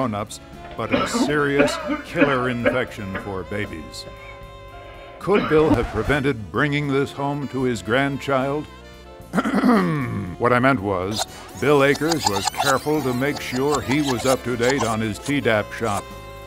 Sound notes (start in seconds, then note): 9.2 clears throat